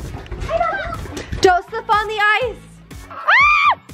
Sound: screaming

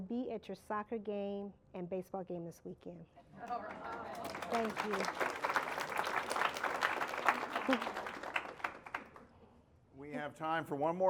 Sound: applause

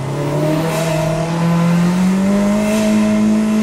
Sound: car engine roars

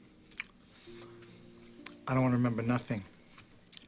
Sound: chewing

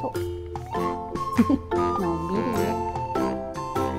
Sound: laughs

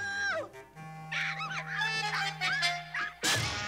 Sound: chirping

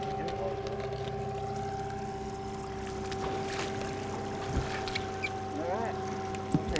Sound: trolling motor humming; fish splashing

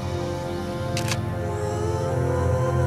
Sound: camera clicks

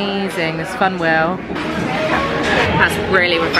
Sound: people chattering

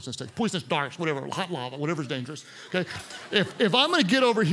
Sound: congregation laughs

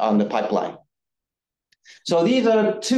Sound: none

